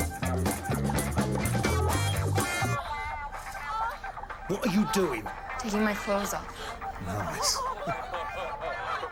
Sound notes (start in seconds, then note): 2.6 woman moaning on TV